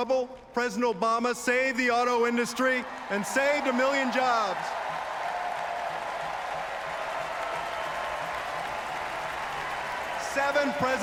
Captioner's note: applause